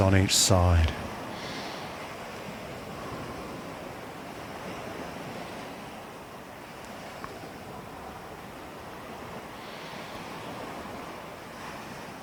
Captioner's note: breathing